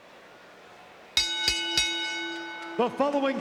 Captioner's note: bell ringing